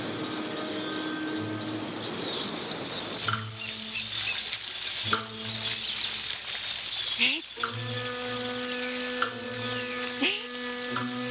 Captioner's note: chirping